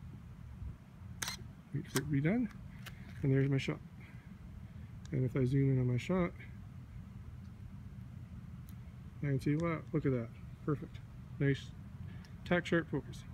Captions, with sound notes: (shutter closes) Now it's done. And there's my shot. And if I zoom in on my shot... I can see.. yeah, look at that. Perfect. Nice... tack sharp focus.